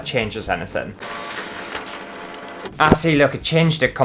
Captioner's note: scanning Sounds